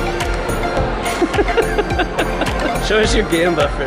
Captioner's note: laughing